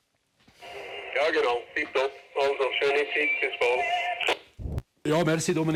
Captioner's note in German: Verzerrt